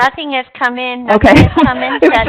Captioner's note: laughing